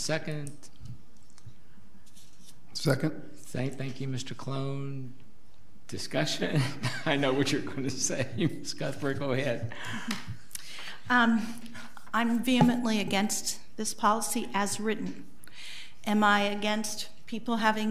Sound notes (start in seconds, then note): 6.0 laughs; 10.6 board laughs